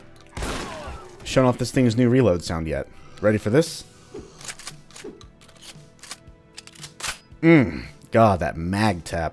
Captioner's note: mag tap